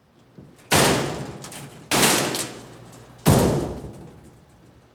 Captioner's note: metal doors slamming